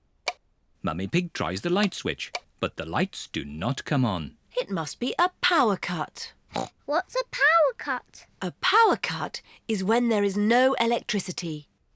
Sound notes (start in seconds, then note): 6.2 grunts